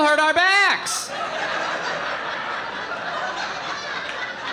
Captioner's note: audience laughing